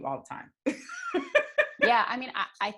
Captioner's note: laughs loudly